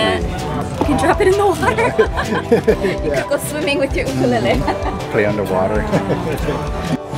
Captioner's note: laugh